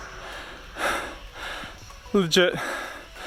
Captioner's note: breathing heavily